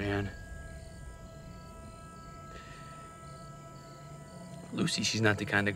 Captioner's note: crickets chirping; tense music